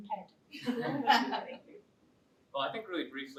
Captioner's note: laughter